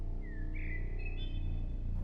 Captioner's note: whistling